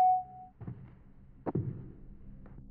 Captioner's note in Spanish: Pitido